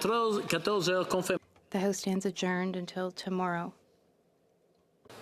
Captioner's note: speaking French